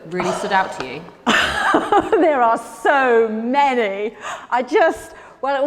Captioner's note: Ruth laughs